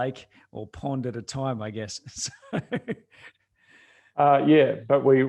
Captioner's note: chuckles